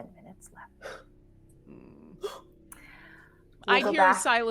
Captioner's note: person gasping